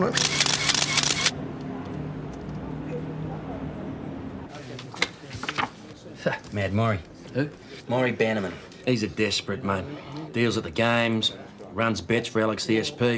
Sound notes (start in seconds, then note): 0.1 camera clicks; 5.7 laughs